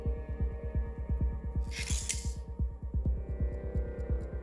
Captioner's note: knife scrapes